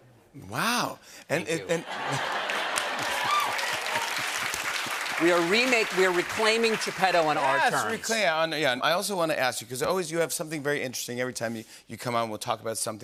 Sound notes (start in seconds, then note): 2.0 cheers and applause